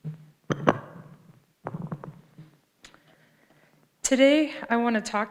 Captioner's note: mic rattles